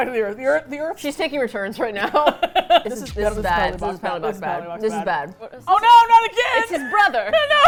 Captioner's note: both laugh